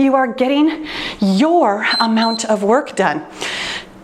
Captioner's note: timer beeps